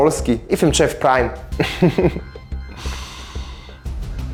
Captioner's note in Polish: śmiech